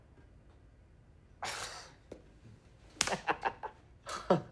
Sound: laughing

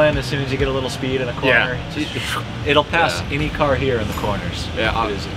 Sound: sucking noise

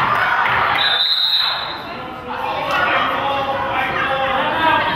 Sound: whistle blows

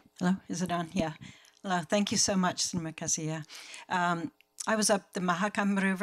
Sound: speaking foreign language

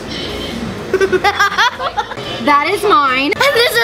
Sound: laughing

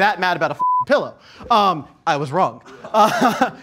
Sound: beep; laughing

